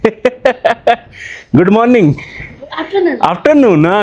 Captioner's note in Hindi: हंसी